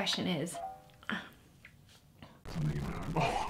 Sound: groans

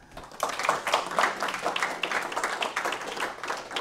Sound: applause

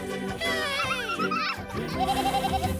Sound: bleating

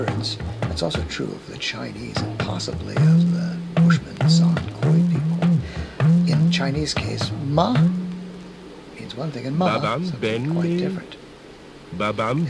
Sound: rising inflection

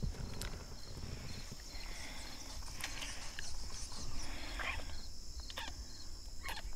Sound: strange scratching sounds

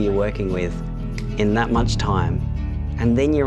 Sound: click

